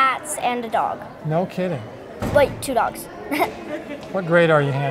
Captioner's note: chuckles